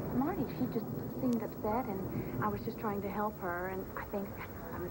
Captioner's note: thunder rumbles